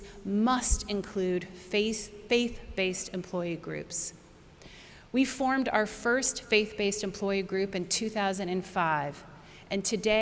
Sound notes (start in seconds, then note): none